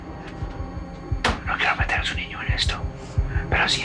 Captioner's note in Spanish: Susurra